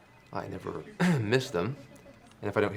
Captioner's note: clears throat